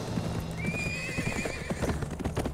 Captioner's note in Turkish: At kişneme sesi